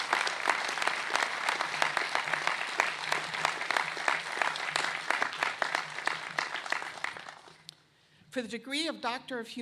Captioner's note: applause